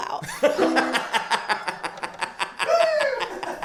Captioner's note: laughs